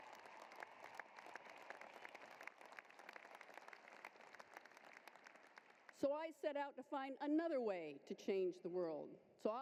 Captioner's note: applause